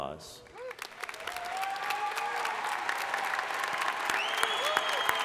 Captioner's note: crowd applauding